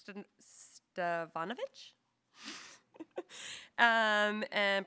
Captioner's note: chuckles